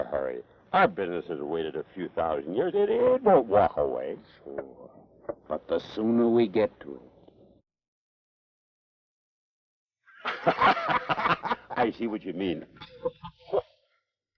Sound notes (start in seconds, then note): 10.2 both laugh